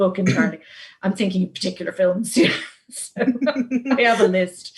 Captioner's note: laughs